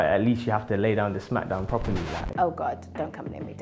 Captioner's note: vinyl scratch